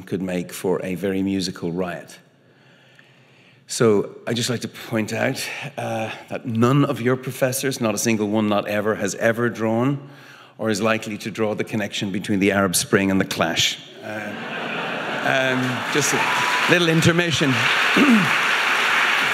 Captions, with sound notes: could make for a very musical riot. So, I'd just like to point out that none of your professors, not a single one, not ever, has ever drawn, or is likely to draw the connection between the Arab Spring and The Clash. (audience laughing) (audience applauding) Just a little intermission.